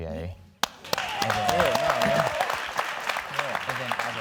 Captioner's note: audience clapping